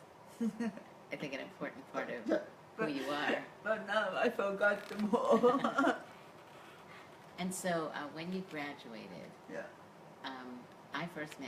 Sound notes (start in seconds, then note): 5.2 laughs